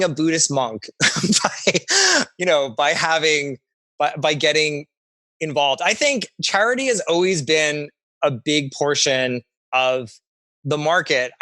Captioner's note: laughs